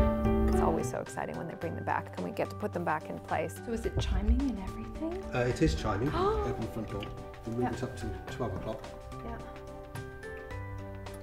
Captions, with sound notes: It's always so exciting when they bring them back, and we get to put them back in place. so is it chiming and everything? Uh it is chiming, [gasp] you can open the front door, and move this up to twelve o'clock.